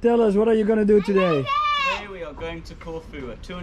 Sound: shouts

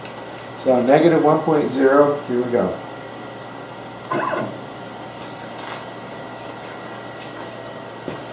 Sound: machine moves

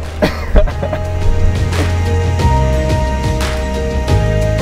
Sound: laughter

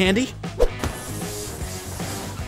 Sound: air gushing; upbeat rock music

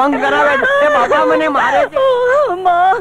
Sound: crying

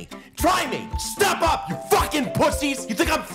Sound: shouting

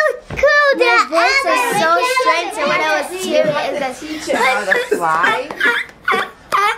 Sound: squeels

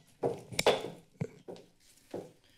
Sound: mic tapping; gavel tapped against the lectern

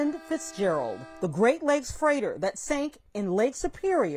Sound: horn honking

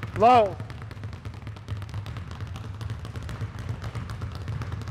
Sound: balls continue thudding

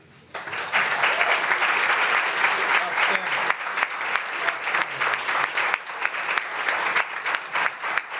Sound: applause

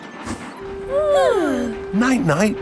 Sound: both yawning

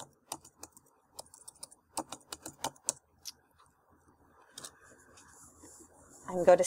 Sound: typing

